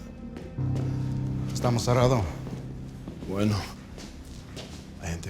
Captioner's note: speaking spanish